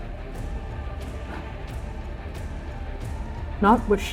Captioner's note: shallow breathing